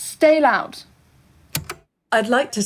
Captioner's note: the tape player stops